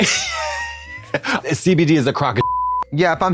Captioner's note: beep